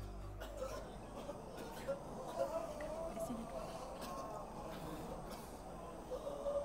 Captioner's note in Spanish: Toses, llantos, jadeos